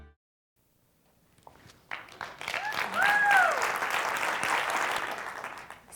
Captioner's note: applause